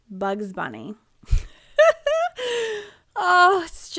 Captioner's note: laughing